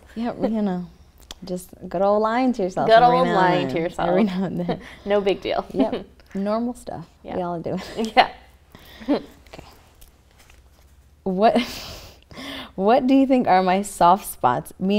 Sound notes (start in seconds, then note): 8.9 chuckles; 11.8 chuckles